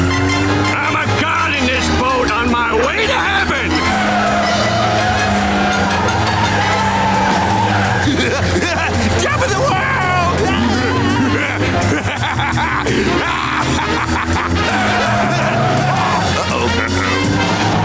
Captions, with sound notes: I'm a god in this boat, on my way to heaven! [laughing] Top of the world! [laughing] - Uh-oh. - Uh-oh.